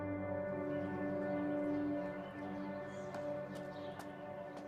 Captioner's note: birds chirping